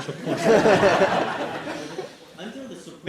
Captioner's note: laughter